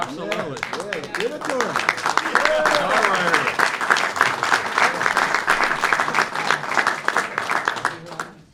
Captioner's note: applause